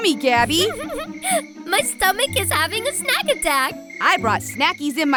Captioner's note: laughs